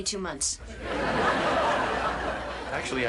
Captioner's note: audience laughing